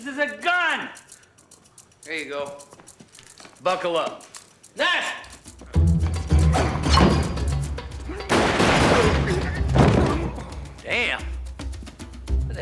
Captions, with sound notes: This is a gun. Here you go. Buckle up. Nash! (grunting) Damn!